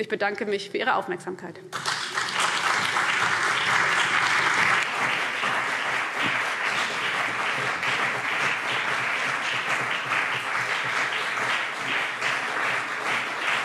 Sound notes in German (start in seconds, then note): 1.7 Beifall CDU und BÜNDNIS 90/DIE GRÜNEN